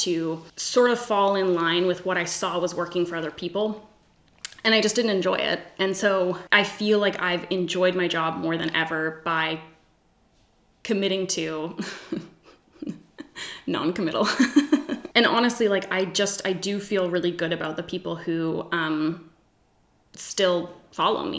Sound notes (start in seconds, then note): 11.7 giggles; 14.3 laughs